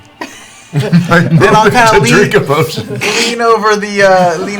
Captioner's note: laughing; laughs